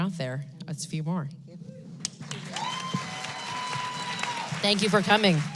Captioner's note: applause